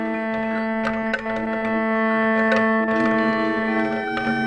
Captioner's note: all murmuring